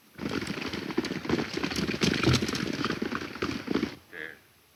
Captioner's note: galloping hooves